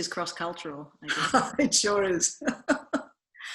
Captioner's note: laughs